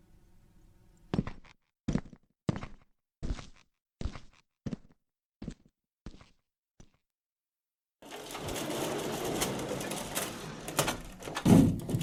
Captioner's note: chair scraping, boot steps, door opening, door closing